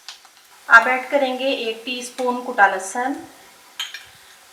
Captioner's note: crushed